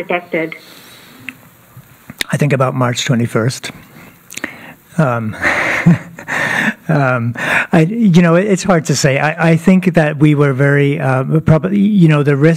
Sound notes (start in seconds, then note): 5.4 laughter